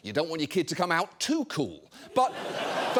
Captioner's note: audience laughing